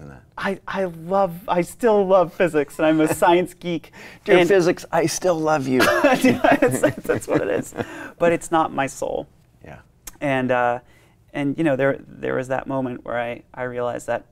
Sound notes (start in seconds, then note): 5.8 both laughing